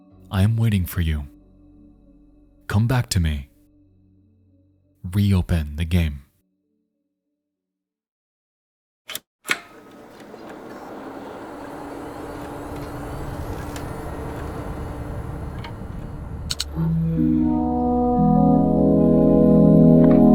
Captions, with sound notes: "I am waiting for you. Come back to me. Reopen the game." (computer chimes)